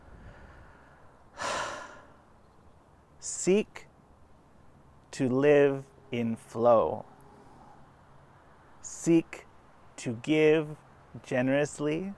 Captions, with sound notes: (sighs) Seek to live in flow. Seek to give generously.